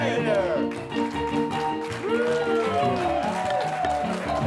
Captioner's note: audience claps; upbeat ragtime music